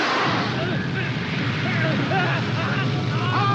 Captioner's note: electrical sparking; flames whooshing; cop screaming